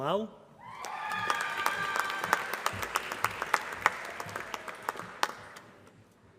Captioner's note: applause